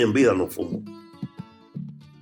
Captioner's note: through translator; speaking Spanish